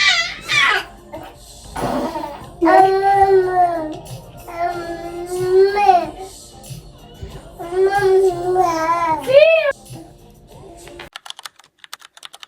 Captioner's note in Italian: urlo